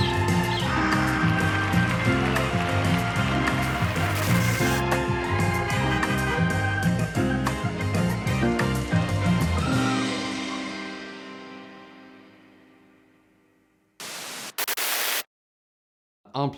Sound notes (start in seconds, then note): 0.0 birds chirping; 2.0 audience clapping; 5.7 horns honking; 14.0 static crackling